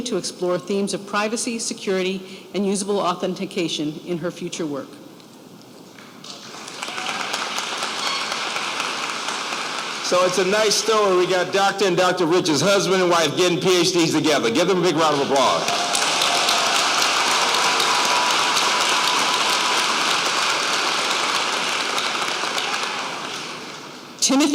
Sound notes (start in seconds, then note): 6.2 applause; 14.5 applause